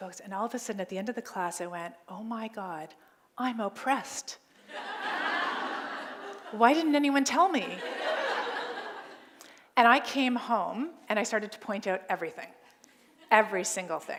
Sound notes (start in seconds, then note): 4.6 laughter